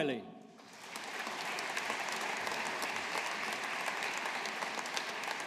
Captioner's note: audience applauding